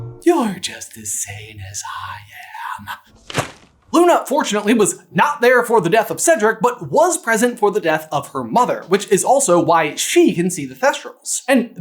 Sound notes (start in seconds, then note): 3.2 thwap